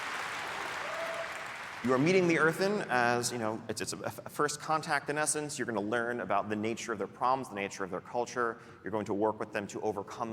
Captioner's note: applause